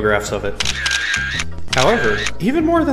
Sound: camera shutter closing

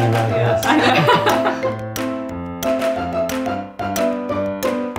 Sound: laughter

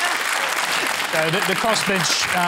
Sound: applause

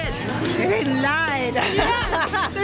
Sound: laughs

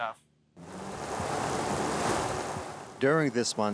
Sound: water lapping

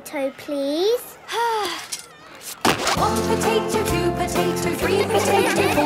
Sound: Belinda sighing; laughter

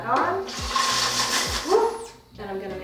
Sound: mixture blending

